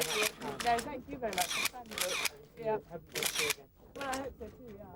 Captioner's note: cameras clicking